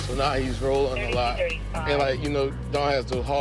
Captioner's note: dispatch chatter